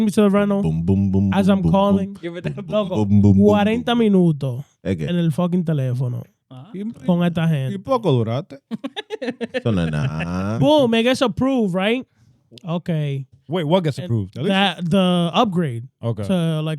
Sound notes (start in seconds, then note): 3.4 speaking In Foreign Language